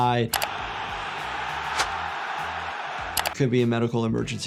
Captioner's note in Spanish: clics del ratón; multitud aplaudiendo